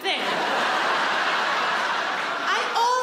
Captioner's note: audience laughs